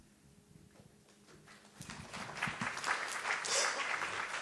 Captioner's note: applause